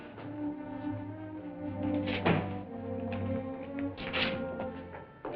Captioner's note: moneybag hits the floor